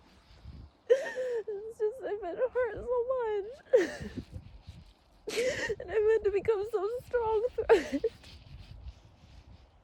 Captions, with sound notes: *inhales urgently, shakily* It's just, I've been hurt so much. *sobs lightly through words* And I've had to become so strong through it.